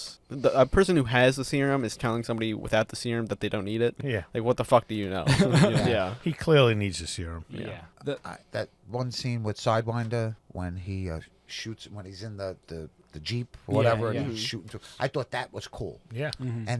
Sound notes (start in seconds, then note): 5.2 laughter